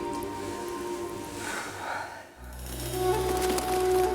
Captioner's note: exhales; mellow dramatic music; wings flapping